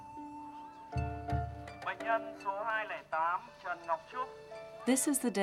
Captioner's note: loudspeaker in foreign language